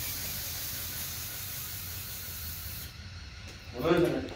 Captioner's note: sprayer laboring